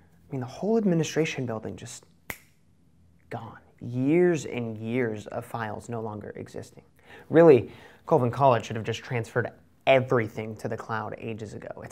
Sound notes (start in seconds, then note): 2.2 finger snaps